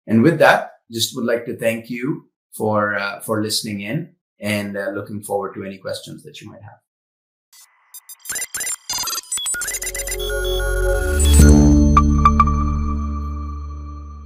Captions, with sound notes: And with that, just would like to thank you for listening in and looking forward to any questions that you might have. (graphics beeping) (graphics chiming)